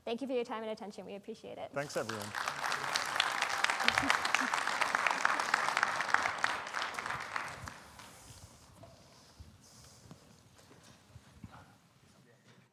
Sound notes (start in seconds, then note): 1.8 audience applauding